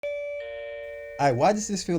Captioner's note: bell ringing